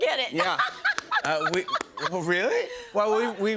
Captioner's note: laughs